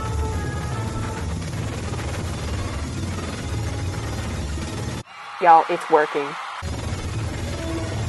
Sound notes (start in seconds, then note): 5.0 cheering stadium crowd